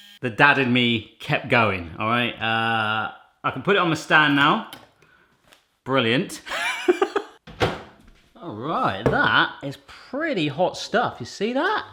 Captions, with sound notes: The dad in me kept going all right. I can put it on my stand now, brilliant. (laughs) All right, that is pretty hot stuff, you see that?